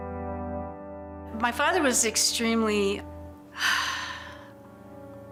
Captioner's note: sighs